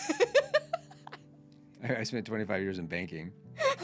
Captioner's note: laughing